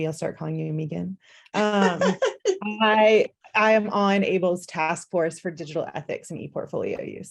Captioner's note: laughter